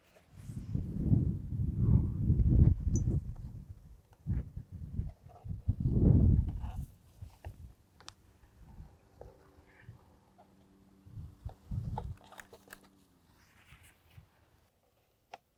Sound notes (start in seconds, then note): 2.5 wind whistling